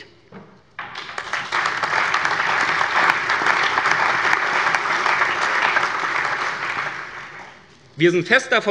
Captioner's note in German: Allgemeiner Beifall